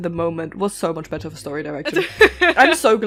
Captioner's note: laughter